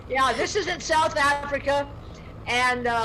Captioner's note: laughs softly